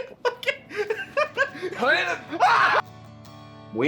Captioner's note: laughing; grunts; screams